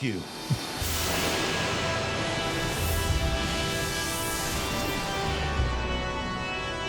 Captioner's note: foreboding music; logo crackling